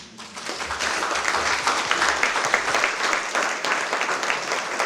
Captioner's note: applause